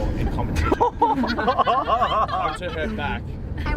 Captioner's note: cheerleaders laughing